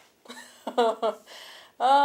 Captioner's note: chuckles